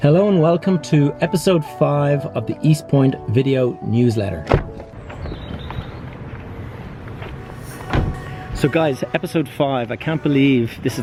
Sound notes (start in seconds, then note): 4.9 car door opening and closing